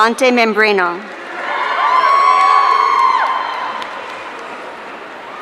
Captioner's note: audience cheering